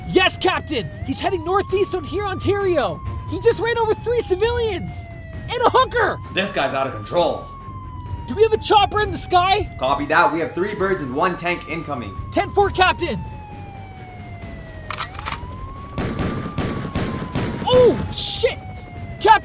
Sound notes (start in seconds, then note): 14.8 gun cocks; 15.9 shots fired